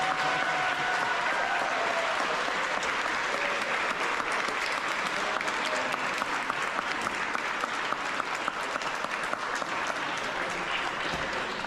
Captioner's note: rousing applause